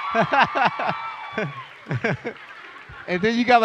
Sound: cheering

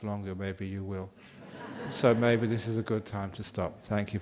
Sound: laughter from the audience

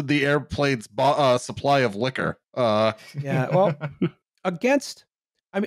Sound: laughs

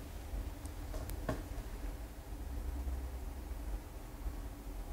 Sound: chair creaking

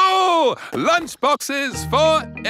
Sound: laughs

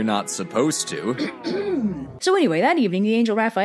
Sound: cough x2

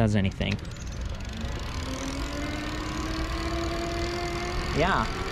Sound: bike motor whirring

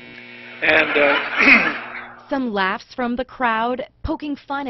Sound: laughter

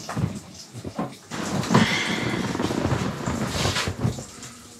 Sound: food sizzling

